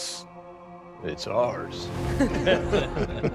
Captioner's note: laughter